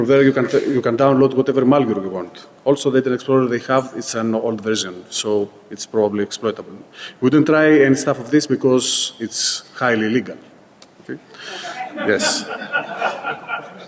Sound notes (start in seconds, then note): 11.5 laughing